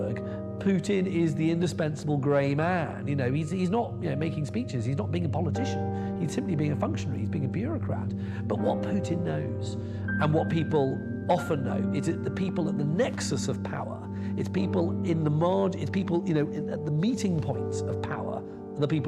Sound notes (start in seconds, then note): none